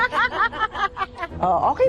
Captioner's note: laughing